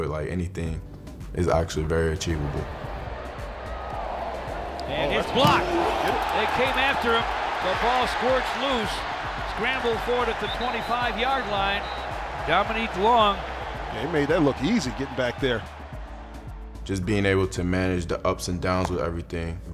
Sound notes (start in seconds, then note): 2.6 crowd murmuring; 6.7 crowd cheering